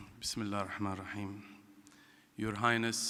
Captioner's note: speaking in foreign language